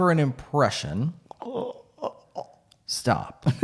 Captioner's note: grunting